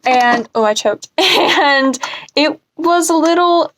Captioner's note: laughs